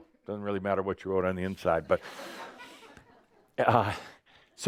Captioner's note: some chuckles